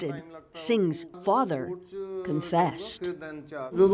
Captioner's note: speaking alternate language